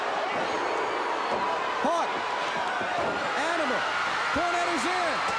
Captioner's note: crowd cheering